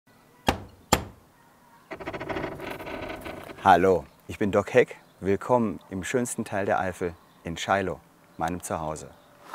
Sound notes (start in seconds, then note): 1.8 creaking